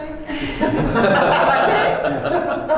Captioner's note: laugh